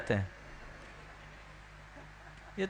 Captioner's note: laughter